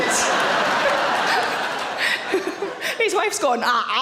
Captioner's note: audience laughs; Sarah laughs